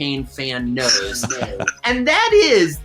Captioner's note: laughs